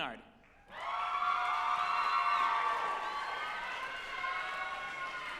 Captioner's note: group applauding and cheering